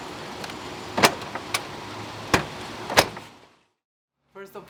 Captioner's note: boot door slams